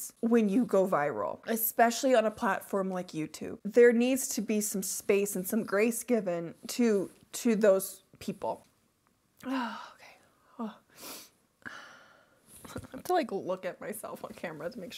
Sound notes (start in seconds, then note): 9.4 sighs